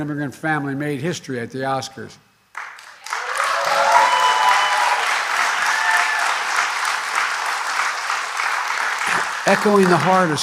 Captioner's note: applause